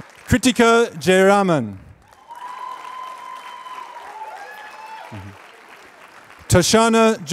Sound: applause

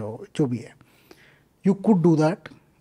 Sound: speaks in Hindi

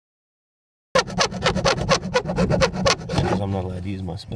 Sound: filing sounds

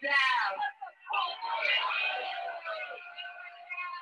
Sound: crowd jeering

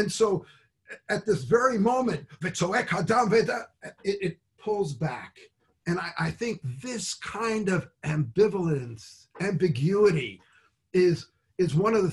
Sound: speaks Hebrew

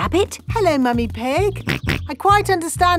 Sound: snorts

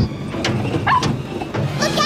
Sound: barking

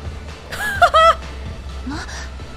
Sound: chuckles

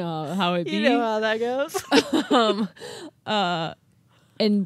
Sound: chuckling

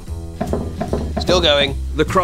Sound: gentle suspenseful music; ball bouncing

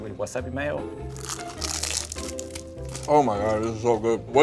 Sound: sushi crunching

